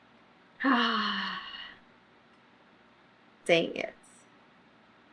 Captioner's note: sighs